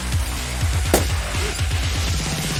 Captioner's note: pop